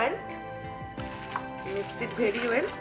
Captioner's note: batter mixing together